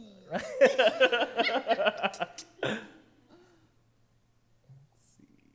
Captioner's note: laughter